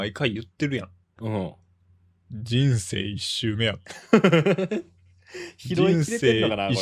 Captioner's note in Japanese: 笑い